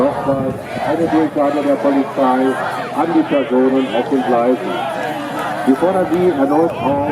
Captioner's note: police announcement in German